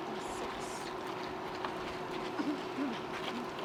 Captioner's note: murmurs